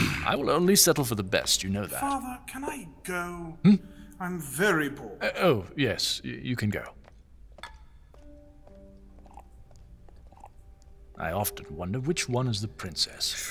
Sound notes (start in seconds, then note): 3.6 sighing; 6.5 footsteps leave the room, more wine pours. Transitional movement